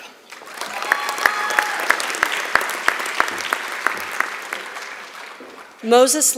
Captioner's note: applause